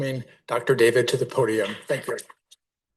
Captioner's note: audience applauding